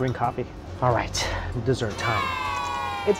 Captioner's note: bg: kids cheering